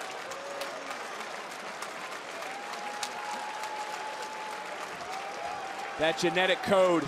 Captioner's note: crowd cheers